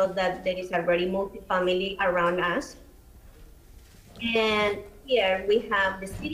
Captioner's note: ~audio distortion~